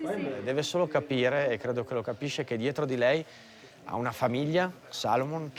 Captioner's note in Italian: parla in italiano